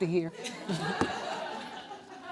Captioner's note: audience laughs